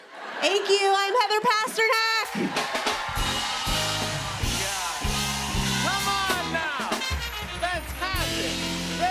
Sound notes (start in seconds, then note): 2.2 applause